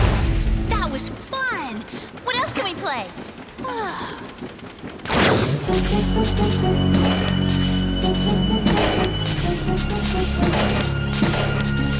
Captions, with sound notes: That was fun. What else can we play? [sighs] [dramatic music]